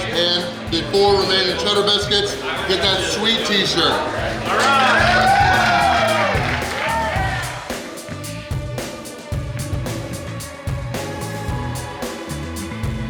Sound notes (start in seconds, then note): 4.8 cheering